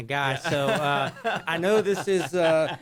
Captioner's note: laughter